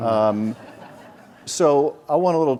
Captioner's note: audience laughs